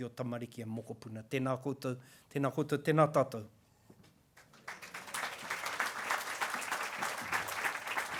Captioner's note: applause